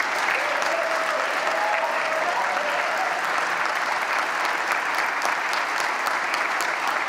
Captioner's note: applause